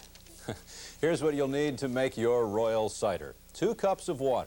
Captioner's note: chuckle